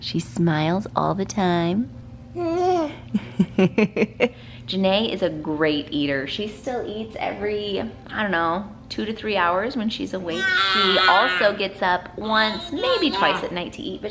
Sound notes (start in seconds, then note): 2.4 baby cooing